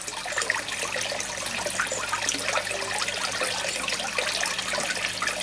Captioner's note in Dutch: geluid van kabbelend water